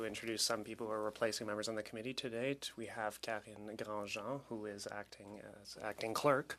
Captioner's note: speaking French